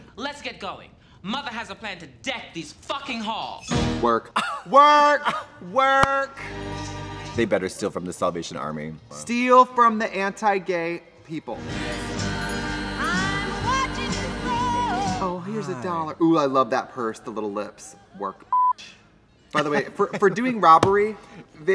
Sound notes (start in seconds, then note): 18.5 beep